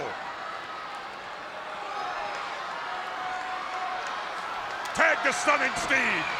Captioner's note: spectators cheering